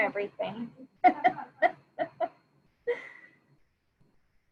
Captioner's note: laughing